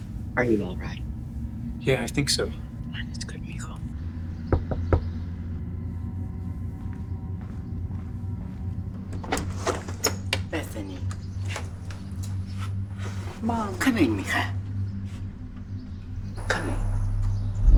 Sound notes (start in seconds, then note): 3.6 speaks Spanish; 4.5 knocking at the door; 5.8 dark, menacing music; 9.0 door clatters; 15.0 speaks Spanish